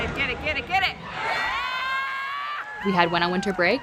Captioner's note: crowd cheering